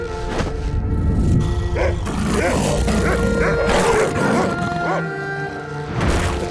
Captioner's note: barking, growling; whimpering